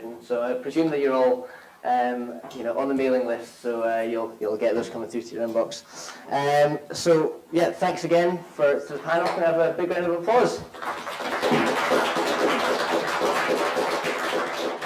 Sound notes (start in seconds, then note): 10.6 all applaud